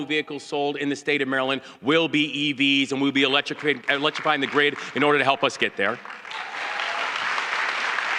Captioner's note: applause